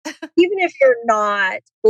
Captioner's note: laughs